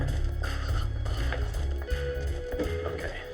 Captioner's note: whispers